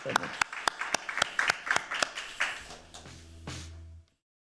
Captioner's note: applause